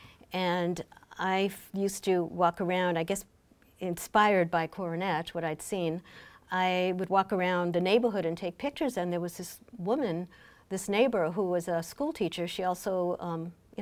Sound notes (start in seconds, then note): none